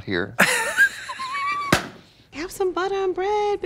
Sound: Katya tee-hees and slaps

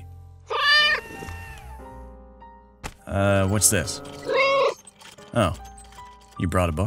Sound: meow

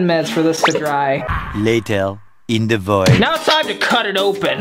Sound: french Accented Voice

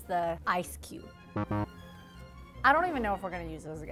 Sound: buzzer beeping

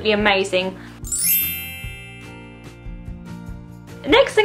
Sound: bell transition sound effect

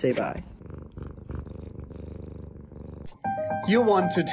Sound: purring loudly; suspenseful piano music

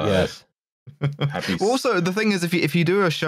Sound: chuckles

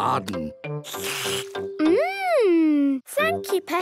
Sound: slurps

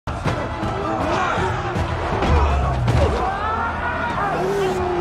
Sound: screaming and grunting

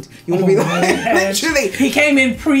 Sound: laughs

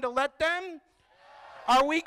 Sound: crowd

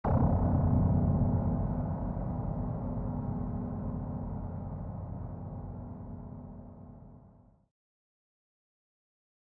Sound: dark sound

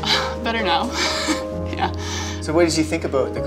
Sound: chuckles

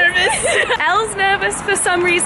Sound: laughing

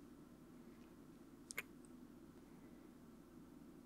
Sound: kiss

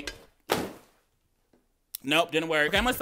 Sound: loud thud

